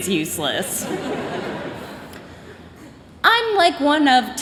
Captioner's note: chuckling